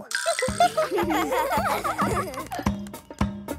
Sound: giggles

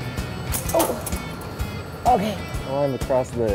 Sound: equipment clatters

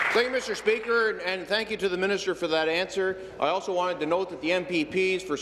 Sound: applause

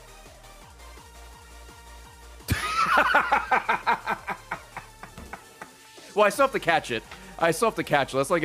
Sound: laughs

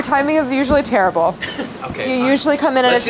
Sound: laughs

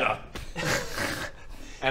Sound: unimpressed giggles

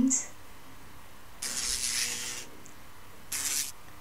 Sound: buzzing

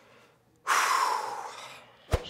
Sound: exhales deeply

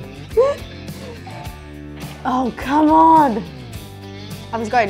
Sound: laughs

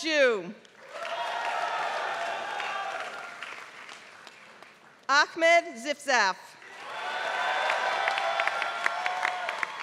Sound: applause

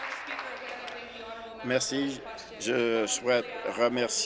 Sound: applause

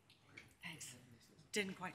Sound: moderator speaks faintly

